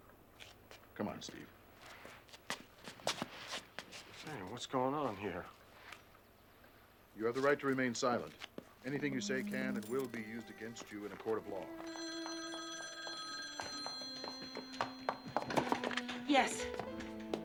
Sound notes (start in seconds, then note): 11.9 footsteps approaching; 11.9 phone ringing